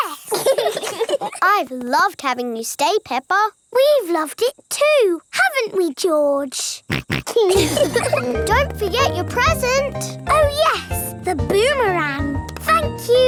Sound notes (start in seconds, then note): 0.1 laugh; 6.9 snorts; 6.9 laughs